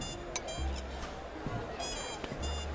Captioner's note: all chattering